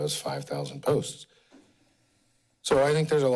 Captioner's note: pause